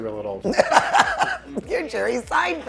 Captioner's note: laughing